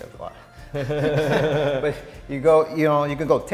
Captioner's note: laughing